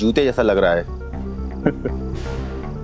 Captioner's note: snide chuckle